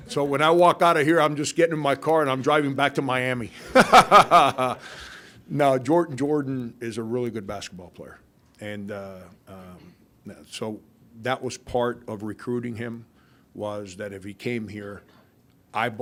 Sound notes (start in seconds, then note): 3.6 Frank laughing